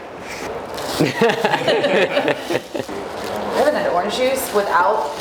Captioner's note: laughs